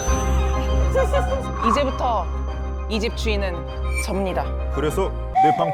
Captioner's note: charismatic sound effect